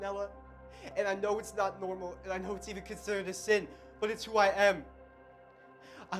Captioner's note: voiceover